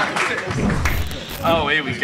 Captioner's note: logo whirring